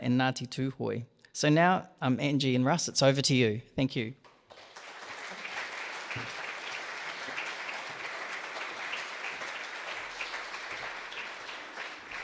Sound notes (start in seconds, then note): 4.4 audience applauds